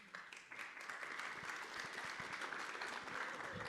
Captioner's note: audience claps